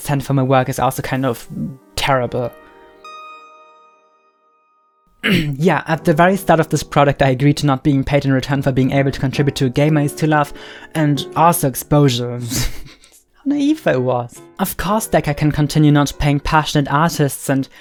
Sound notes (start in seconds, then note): 3.1 synth music stops; 5.2 clearing throat; 12.7 laughs